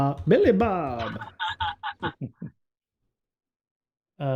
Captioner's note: laughter